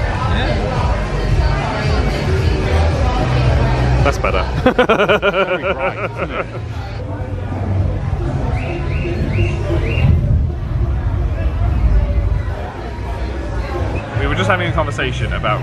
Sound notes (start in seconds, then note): 4.5 laughs; 8.2 thunder rumbling; 8.5 birds chirping